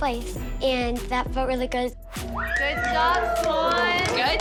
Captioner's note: cheering